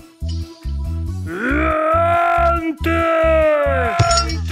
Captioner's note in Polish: echo